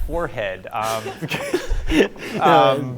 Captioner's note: group laughing